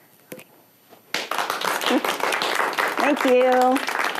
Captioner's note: applause